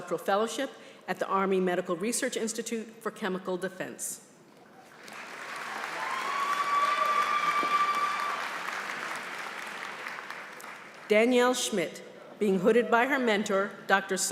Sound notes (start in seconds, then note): 4.9 applause